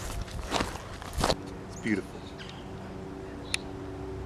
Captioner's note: none